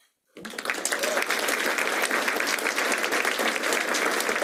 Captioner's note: applause